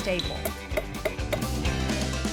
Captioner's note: hammering